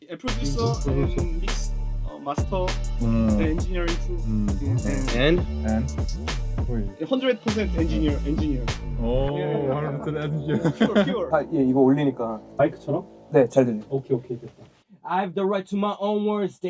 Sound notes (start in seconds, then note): 11.5 speaking Korean